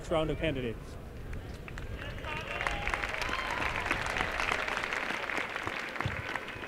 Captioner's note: applause